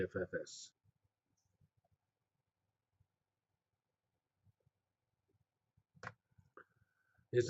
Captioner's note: pause